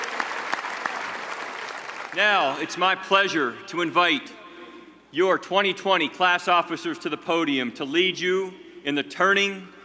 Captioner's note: applause